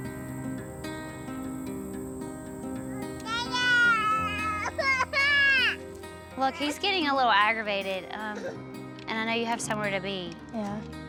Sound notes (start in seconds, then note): 3.9 whining